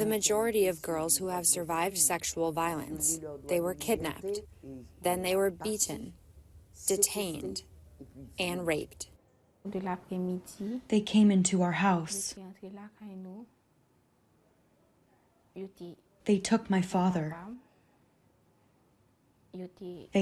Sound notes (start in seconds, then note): 13.1 through translator